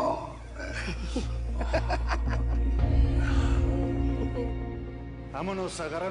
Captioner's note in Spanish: Risas